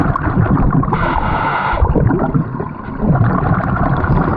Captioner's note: bubbles gurgling